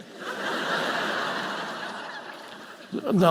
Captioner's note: audience laughing